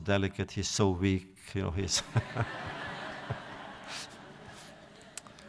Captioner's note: laughing